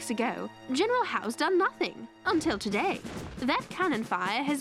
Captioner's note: cannon fire